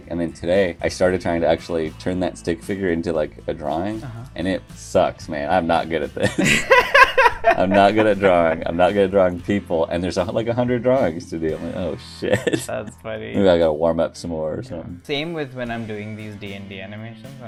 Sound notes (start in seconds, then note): 12.4 laughter